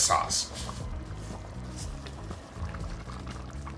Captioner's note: sauce bubbles